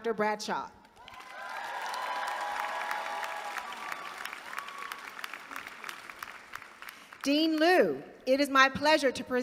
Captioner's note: applause